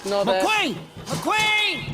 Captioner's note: Mater Shrieks